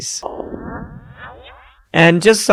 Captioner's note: laser firing